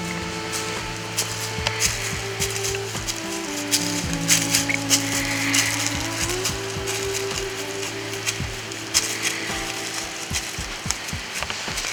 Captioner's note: sound of walking in leaves